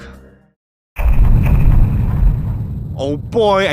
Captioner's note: loud thumping